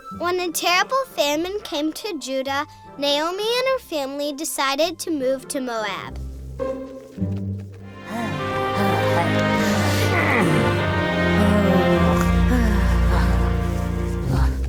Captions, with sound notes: - [Voiceover] When a terrible famine came to Judah Naomi and her family decided to move to Moab. (all groan and sigh)